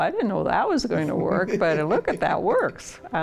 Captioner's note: laughs